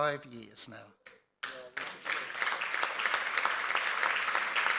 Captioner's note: audience applauds